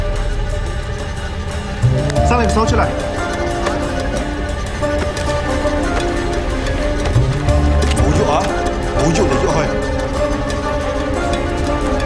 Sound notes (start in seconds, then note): 2.3 foreign language